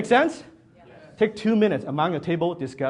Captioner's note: audience Members in unison